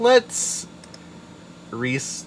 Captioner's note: click